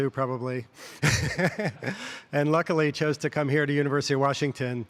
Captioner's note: laughs